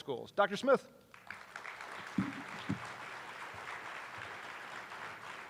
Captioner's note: attendees applauding